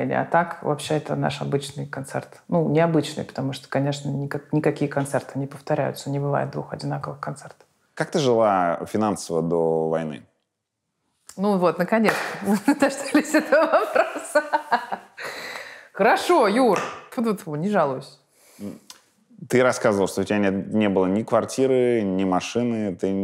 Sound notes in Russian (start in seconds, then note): 12.0 хлопает; 12.4 смеясь